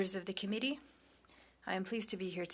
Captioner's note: speaking French